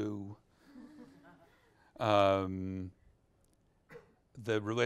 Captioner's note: audience laughs